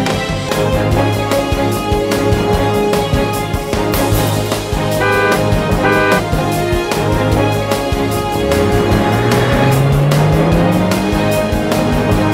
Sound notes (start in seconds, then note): 4.9 car honking